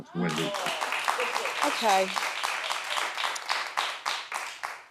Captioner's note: audience applauding